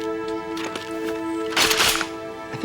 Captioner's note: shotgun cocks